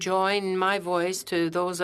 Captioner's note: speaking French